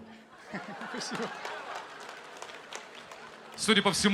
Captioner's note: laughs